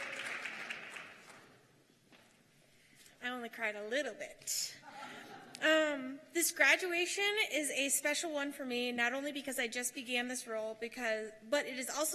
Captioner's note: cheers and applause